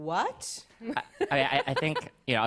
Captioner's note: laughs